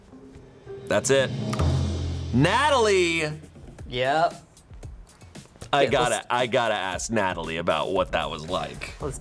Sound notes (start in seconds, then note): 0.0 tense music building; 1.6 button clicks; 4.8 light upbeat music